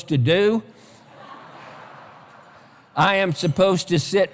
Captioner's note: laughter